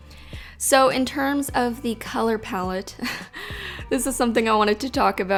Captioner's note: chuckles